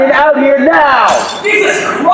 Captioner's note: glass shatters